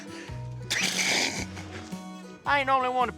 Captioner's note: snickering; snickers